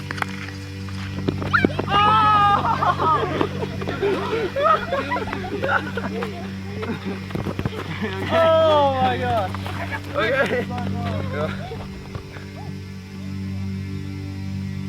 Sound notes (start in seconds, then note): 2.7 all giggle; 11.8 groans